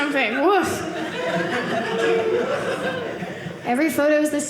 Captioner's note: audience laughing